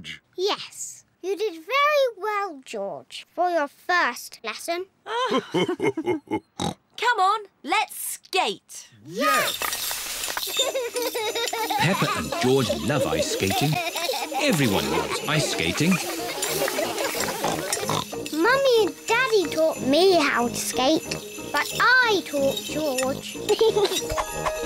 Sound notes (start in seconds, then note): 5.1 both laugh; 10.5 laughs; 16.2 snorts; 23.6 giggles